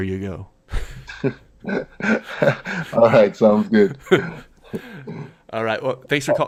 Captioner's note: laughs